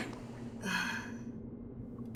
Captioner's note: gasps softly